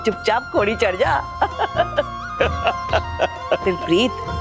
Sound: laughing

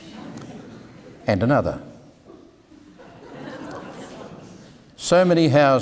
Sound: audience laughing

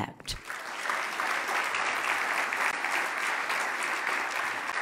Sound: loud clapping

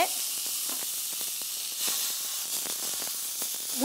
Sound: pan sizzles

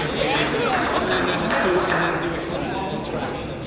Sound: person claps

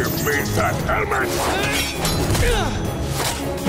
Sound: grunting

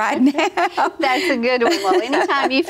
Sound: laughter

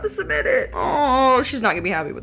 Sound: groaning

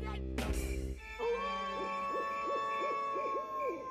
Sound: wolf howling; crickets chirping

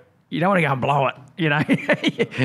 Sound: laughs

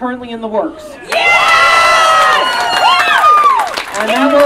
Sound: audience Cheering and Clapping

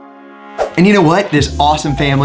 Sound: screen swooshes

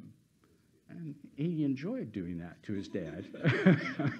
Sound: laughs

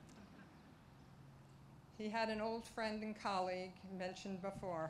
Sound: laughter

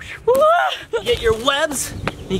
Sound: yells

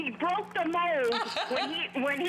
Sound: laughter

